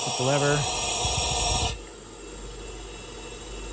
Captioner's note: torch hisses quietly